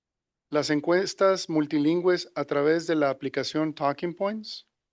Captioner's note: non-english speech